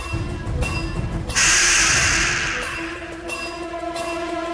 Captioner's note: beast shrieks